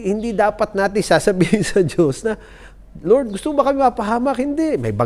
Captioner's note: chuckles